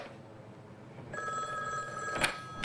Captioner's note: phone ringing